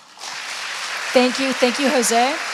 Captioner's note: applause